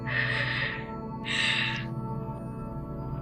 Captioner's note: crying